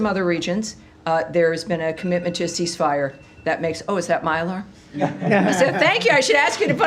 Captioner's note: laughter